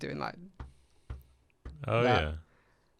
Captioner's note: thumping